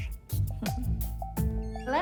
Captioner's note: chuckles